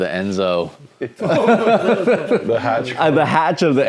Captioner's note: everyone laughs